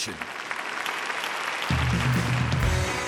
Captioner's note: applause